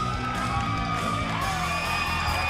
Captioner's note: cheers and applause